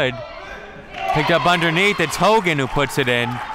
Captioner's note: crowd cheering